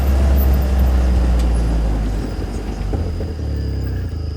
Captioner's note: engine rumbling